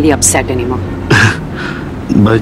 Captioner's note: Giggling